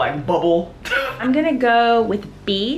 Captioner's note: scoffs